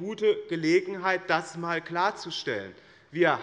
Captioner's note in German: none